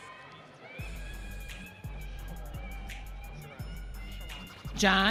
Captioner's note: audience cheering